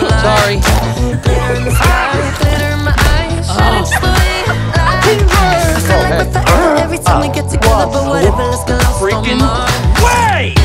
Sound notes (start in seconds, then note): 0.8 groans; 1.4 giggling; 2.2 spurt; 2.3 smacks; 3.4 laughs